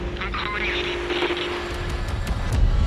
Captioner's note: distorted voice on radio